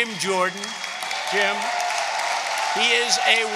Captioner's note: applause